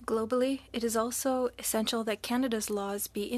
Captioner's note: speaking French